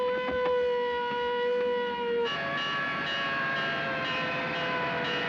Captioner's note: siren, Bell Clanging